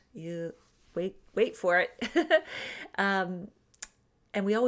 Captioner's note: laughs